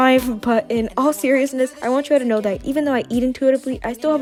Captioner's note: giggles